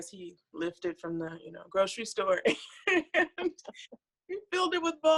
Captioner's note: laughs